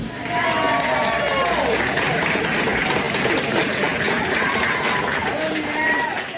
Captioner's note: crowd clapping and cheering